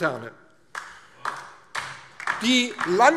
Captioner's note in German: Beifall DIE LINKE